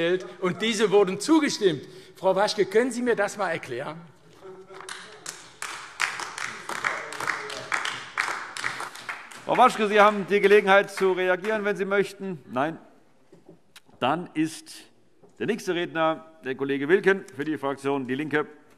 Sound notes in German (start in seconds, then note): 4.7 Beifall AfD